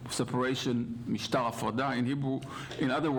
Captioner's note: hebrew